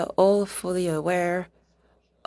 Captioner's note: speaking French